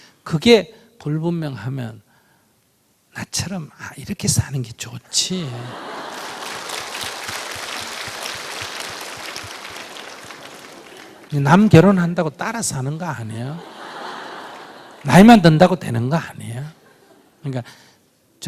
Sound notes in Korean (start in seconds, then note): 5.5 청중 웃음/박수